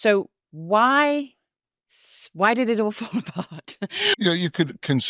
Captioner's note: chuckles